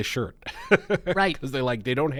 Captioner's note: laughs